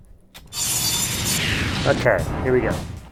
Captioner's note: saw blade buzzing